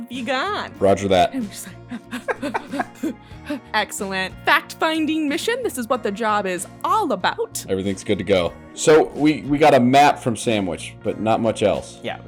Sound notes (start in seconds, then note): 1.8 laughter